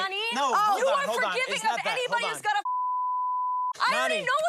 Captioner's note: beep